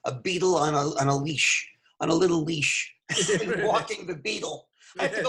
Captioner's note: laughing